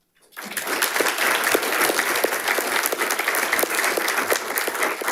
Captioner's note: audience applauding